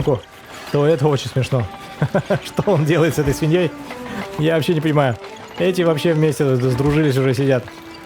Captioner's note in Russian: смех